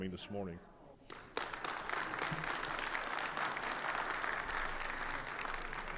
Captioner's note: audience applauding